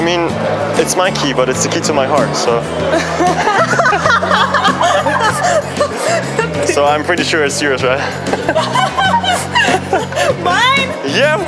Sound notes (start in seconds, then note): 3.0 girl is laughing